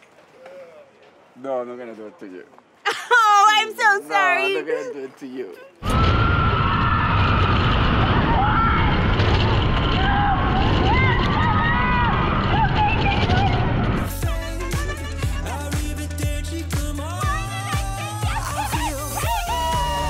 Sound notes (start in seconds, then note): 6.7 wind wooshing; 14.0 cheerful music